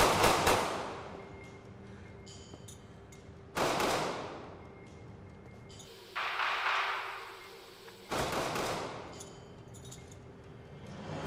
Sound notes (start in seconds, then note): 3.4 two gunshots echo